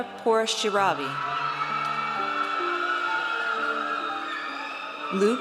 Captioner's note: audience cheers